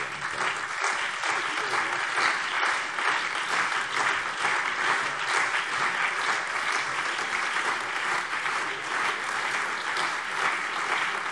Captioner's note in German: Allgemeiner Beifall